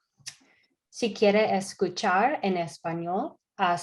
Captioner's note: speaking spanish